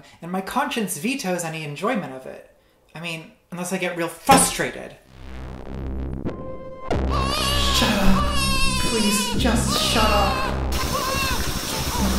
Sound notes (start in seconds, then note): 5.1 drone; 7.1 baby crying